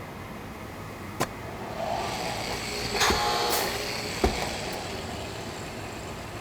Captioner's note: machine whirs